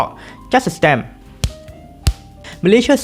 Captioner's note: tap tap